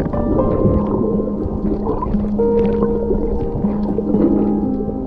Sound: water bubbling

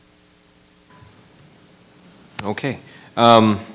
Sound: microphone beeping

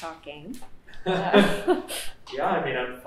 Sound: laughs

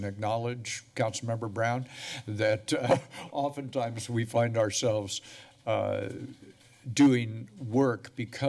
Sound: chuckles

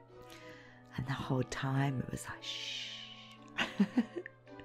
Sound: whispering

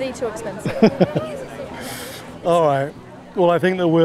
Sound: laughing

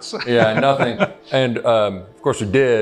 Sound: laughs

